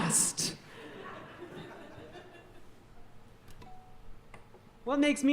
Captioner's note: audience laughing